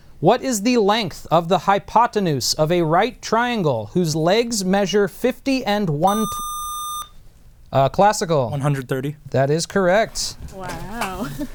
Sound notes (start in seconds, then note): 6.0 buzzer